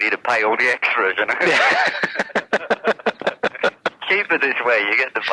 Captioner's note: laughs